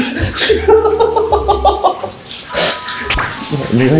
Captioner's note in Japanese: 笑い声